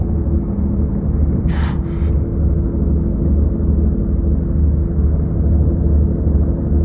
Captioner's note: sound of porpoises surfacing